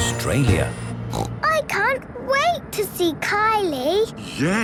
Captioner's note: snorting